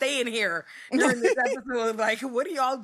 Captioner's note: laughs